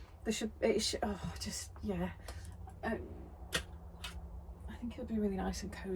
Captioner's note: excited squishing noises